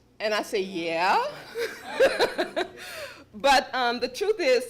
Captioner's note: laughter